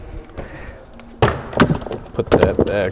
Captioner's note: cords clang